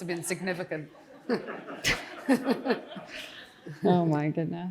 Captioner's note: Jenny and audience laughing